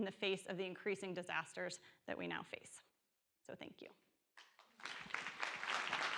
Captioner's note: audience applause